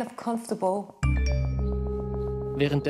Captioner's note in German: Nachrichtensignal